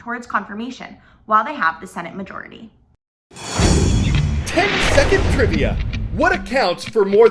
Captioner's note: voice-over